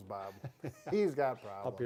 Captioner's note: laughing